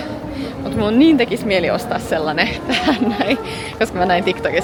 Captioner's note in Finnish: naurua